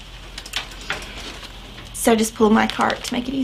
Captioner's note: cart rolling